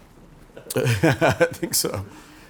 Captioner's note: laughs